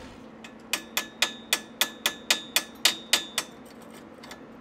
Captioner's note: metal clinking